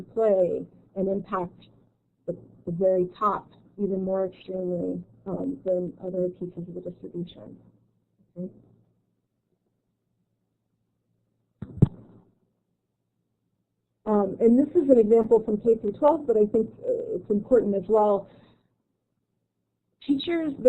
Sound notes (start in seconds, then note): 6.9 silence